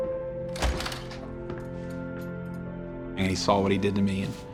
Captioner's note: door creaks loudly; belt jingles